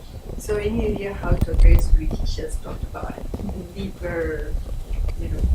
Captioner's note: woman mumbles off-microphone